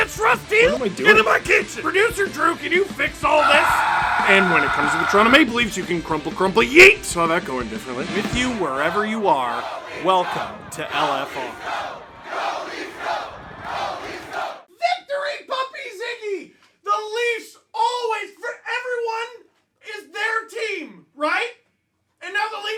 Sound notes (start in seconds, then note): 3.4 screaming